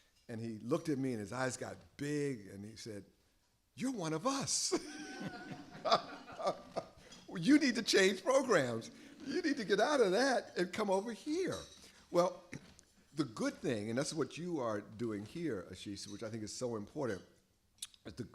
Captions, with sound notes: And he looked at me, and his eyes got big, and he said, you're one of us. [LAUGHS] [LAUGHTER] You need to change programs. You need to get out of that and come over here. Well, the good thing, and that's what you are doing here, Ashish, which I think is so important--